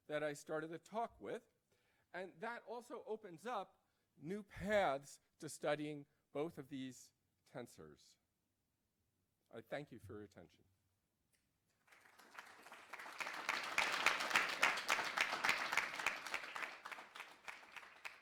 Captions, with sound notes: that I started the talk with. And that also opens up new paths to studying both of these tensores. I thank you for your attention. [APPLAUSE]